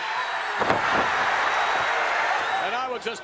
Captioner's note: crowd cheering; mat thumping